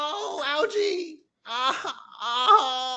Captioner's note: crying sounds